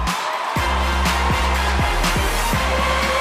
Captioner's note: cheers and applause